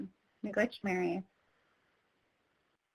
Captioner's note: speaks in foreign language